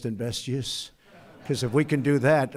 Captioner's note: laughter